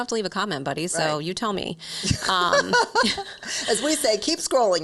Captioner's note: laughs